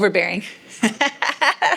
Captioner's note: laugh